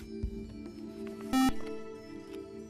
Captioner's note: buzzer